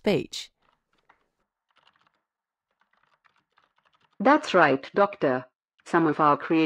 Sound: background SFX: Keyboard typing

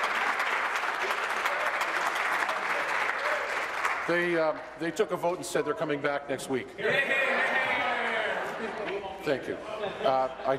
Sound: applause

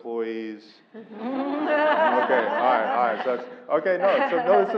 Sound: laugh

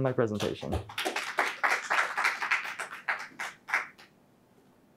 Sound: audience applauds

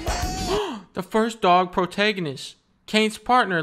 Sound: gasp

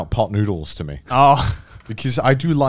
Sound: laughing

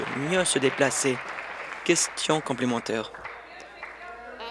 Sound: applause

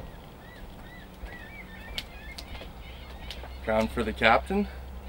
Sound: gulls squawking

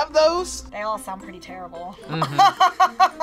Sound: laughs

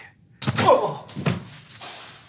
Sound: punch

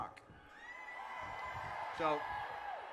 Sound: crowd cheers

